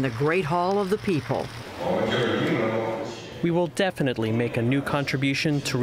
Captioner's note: through translator